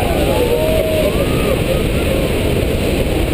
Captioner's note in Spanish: Fuertes aplausos